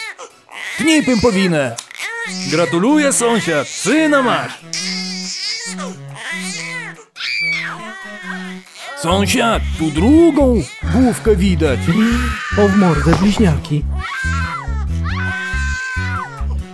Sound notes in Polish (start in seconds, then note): 4.8 płacz dziecka